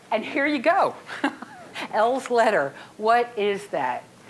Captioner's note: chuckling